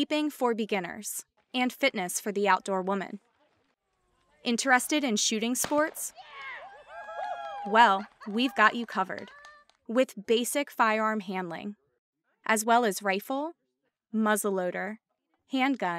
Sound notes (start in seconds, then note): 6.2 gun firing sound followed by cheering and laughter